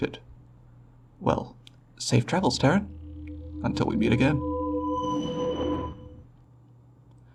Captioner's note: teleporter sounds